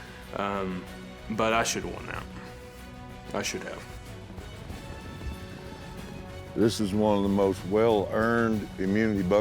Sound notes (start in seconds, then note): 4.2 hoofbeats